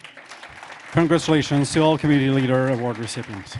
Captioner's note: applause